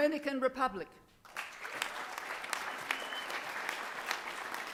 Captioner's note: applause